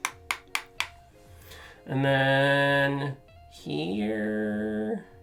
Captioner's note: brush tapping